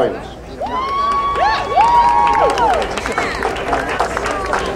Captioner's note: crowd cheering